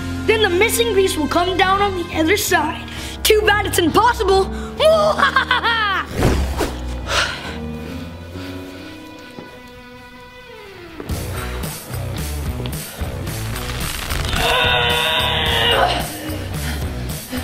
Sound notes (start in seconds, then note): 4.9 laughing; 6.6 exhaling; 11.2 upbeat rock music; 14.2 grunting